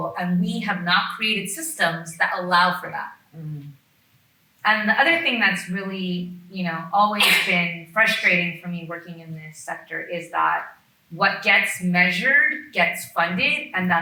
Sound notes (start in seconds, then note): 7.2 attendee sneezing